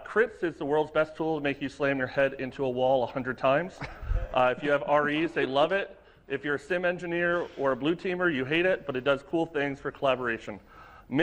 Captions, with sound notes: CRITs is the world's best too to make you slam your head into a wall a hundred times. (laughter) If you have REs, they love it, if you're a SIEM engineer or a blue teamer, you hate it, but it does cool things for collaboration.